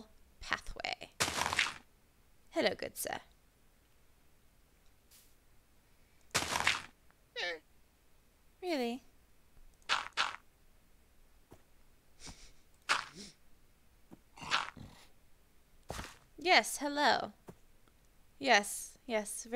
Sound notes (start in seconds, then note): 3.9 with a weird accent; 7.4 llama squeaks